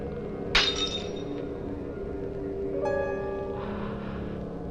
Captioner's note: glass shatters